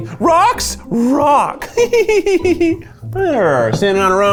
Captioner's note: giggles